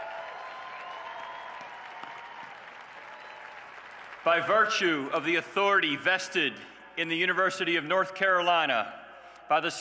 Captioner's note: cheers and applause